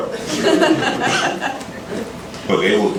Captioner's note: laughter